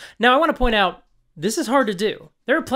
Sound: none

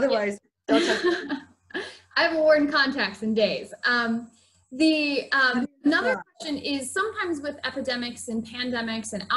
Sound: laughs

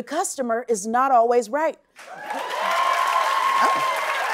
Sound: cheers and applause

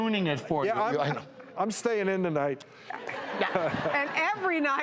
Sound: laughing

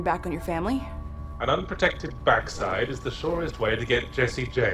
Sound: voiceover

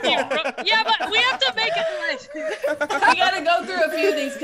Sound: laugh

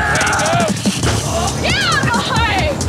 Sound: screams; furniture breaking

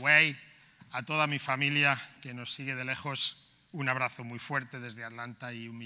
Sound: speaking in foreign language

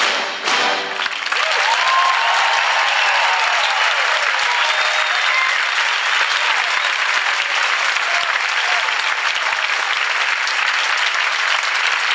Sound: applause

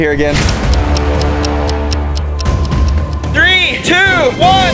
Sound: clock ticking; tense music

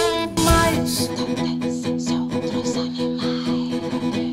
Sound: whispering; choir of whispers

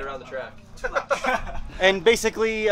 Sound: men laughing

